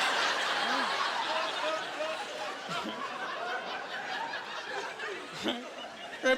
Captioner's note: laughing